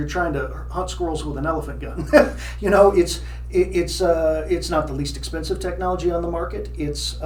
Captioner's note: laughs